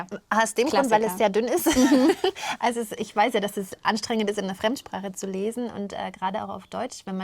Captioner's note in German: gelächter